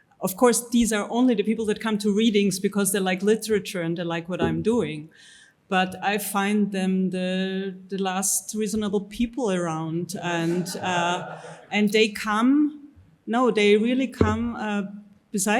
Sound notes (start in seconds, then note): 10.4 audience chuckles